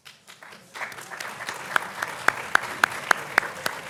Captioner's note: audience clapping